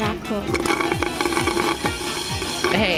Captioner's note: tutel slurp